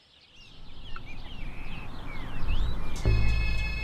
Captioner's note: vehicle approaching